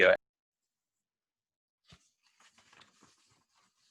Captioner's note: audio cuts out